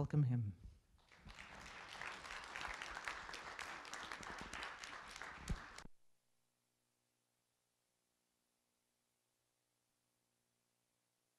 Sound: applause

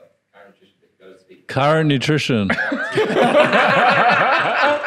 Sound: laughing

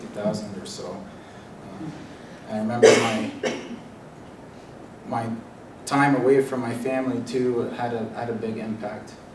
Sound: cough

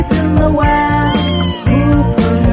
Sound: cat meowing

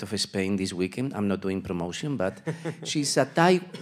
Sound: panelist laughs

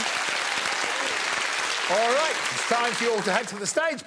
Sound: all applauding

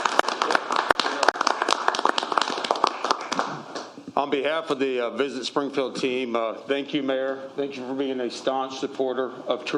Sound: applause

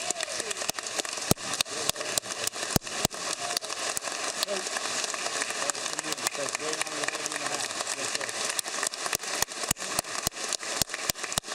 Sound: applause

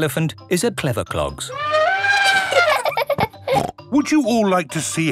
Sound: trumpeting; laughing

